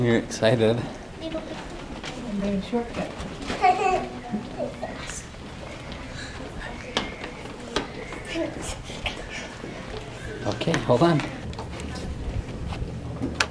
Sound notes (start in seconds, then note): 4.2 baby crying; 4.2 gasps